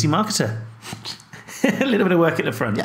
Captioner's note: laughing